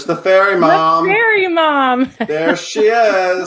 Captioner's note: laughs